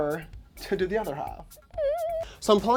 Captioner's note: high-pitched, nervous tone